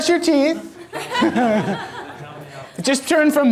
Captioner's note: audience laughter; voiceover